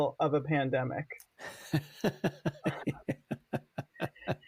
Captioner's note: laughs